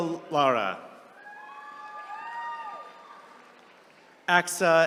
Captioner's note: attendees cheering